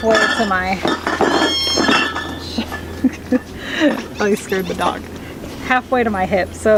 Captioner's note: clanking; laughing